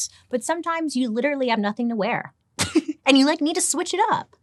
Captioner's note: laughs